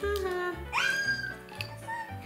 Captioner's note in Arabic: صرخات